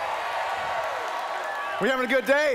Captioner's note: cheering